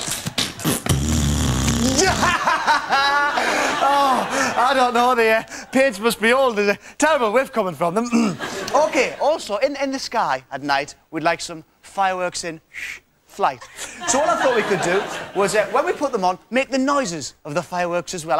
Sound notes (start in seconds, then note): 0.1 Ant farts 10 times; 1.6 laughs; 7.8 clears throat